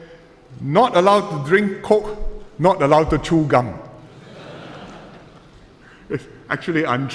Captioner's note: laughter